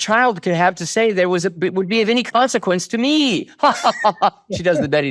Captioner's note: laughs